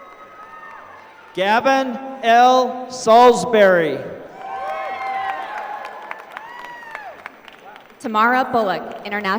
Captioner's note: applause; applause